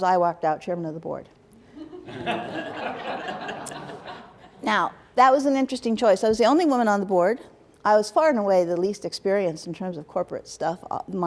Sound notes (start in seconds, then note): 1.7 laughter